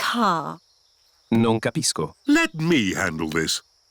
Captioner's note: replies in italian